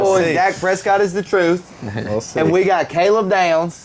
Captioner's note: laughing